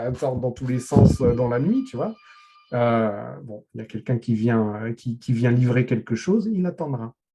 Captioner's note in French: Sonnerie interphone